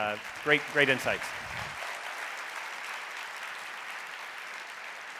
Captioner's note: audience applauding